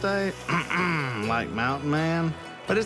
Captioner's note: clears throat